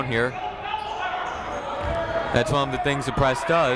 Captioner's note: people shouting in the crowd